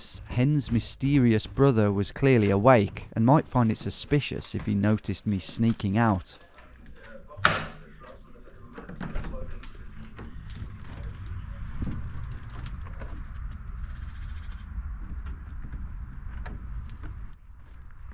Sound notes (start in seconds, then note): 7.4 door clicks; 7.6 actors chattering; 13.2 door creaks